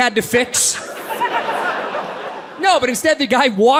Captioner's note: audience laughs